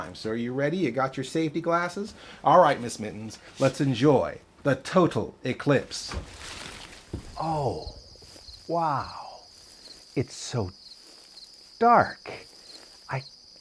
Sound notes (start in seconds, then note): 8.6 footsteps